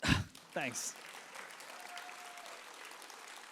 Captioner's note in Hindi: तालियां